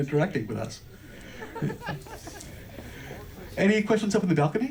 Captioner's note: mild chuckling from audience